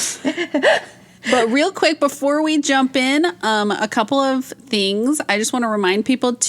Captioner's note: both laugh